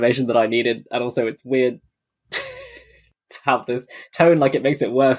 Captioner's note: laughs